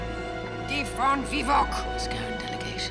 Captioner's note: speaking in foreign language